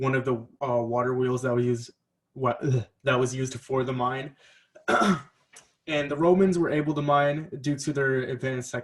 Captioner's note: clears throat